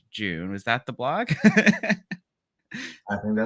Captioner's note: laughs